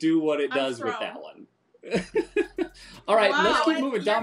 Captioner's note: laughing